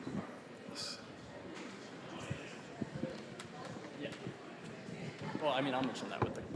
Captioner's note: general chatter